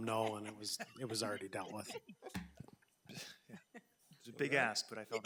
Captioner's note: board laughing